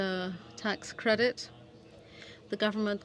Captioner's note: speaking French